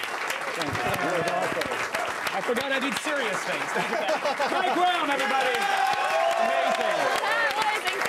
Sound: cheers and applause

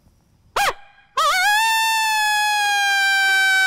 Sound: howling

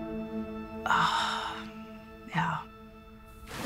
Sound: sighs deeply

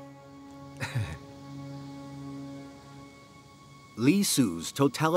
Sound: chief minister laughs

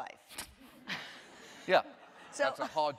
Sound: laughter

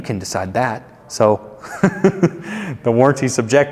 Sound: chuckles

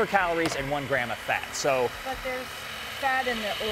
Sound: grinding noise

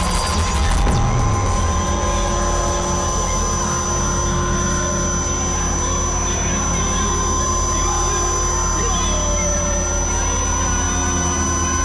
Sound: buzzing

